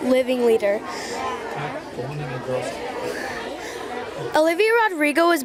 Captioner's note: students chattering